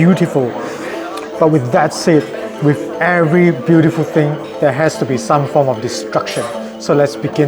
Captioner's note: heheheh